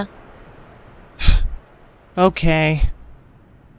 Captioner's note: sighs